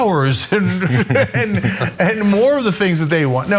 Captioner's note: laugh